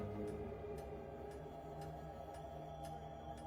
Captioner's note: clock ticking